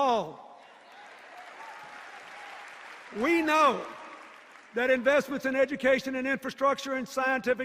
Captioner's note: applause and cheers